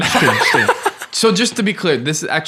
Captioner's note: laughing